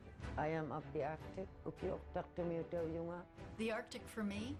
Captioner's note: speaking Inuktitut